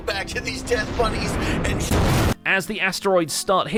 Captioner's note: explosion